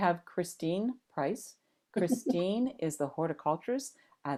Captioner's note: laughs